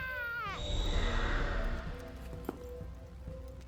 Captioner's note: soft monster roar